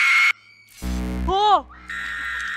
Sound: scream

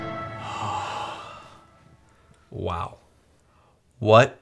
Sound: sighs

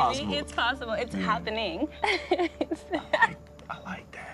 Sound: laughs

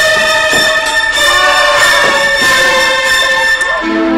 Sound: screams

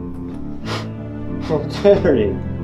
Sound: Clint scoffs

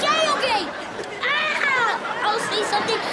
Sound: screams

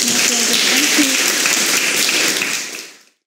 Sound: audience applauds

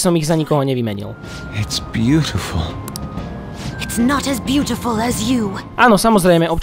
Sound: voices from the game’s dub

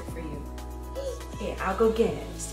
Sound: gasps

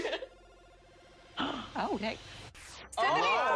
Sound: laughing; gasping

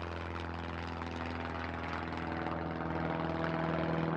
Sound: helicopter

